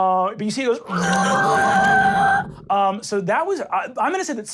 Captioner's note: screeches